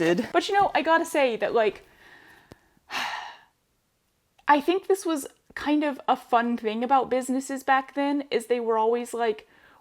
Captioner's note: sigh